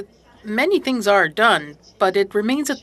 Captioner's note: speaking French